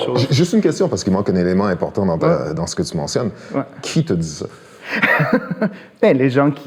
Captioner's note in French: rires